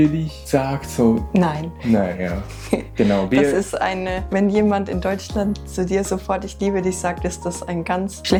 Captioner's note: laughs